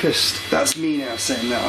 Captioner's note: machine beeping